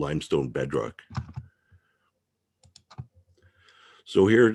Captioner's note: mouse clicking